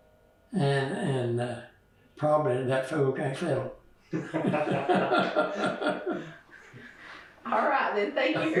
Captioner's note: laughter